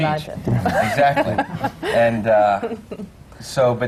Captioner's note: laughs